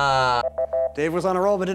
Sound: timer beeps

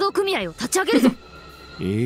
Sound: chuckles

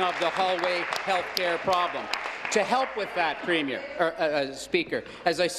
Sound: applause

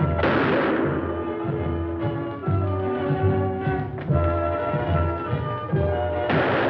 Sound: anticipatory music; guns firing

